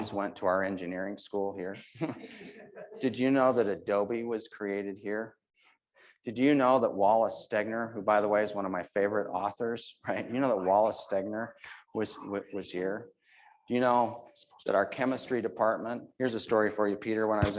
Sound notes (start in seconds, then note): 2.1 audience laughing